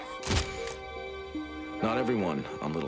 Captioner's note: camera clicks